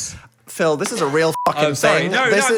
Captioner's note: beep